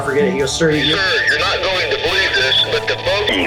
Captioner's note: voiceover